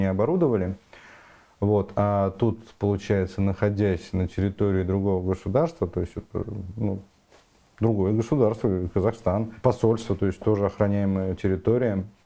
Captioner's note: Russian